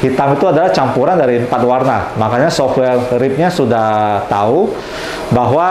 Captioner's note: printer machine sound